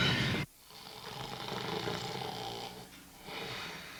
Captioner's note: Charlie snoring